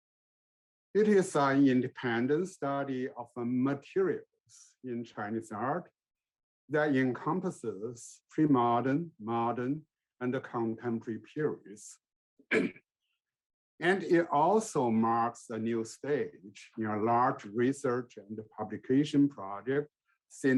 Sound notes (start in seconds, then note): 12.5 clears throat